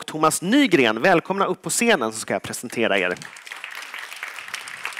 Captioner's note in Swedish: applåd